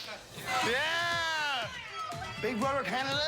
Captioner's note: cheheerers